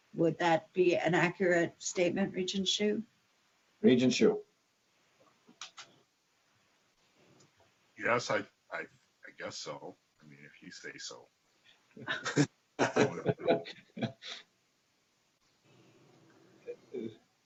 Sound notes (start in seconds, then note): 12.8 laughing